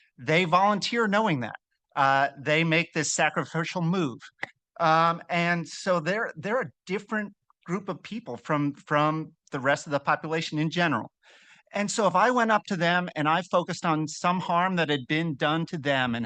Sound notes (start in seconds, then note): none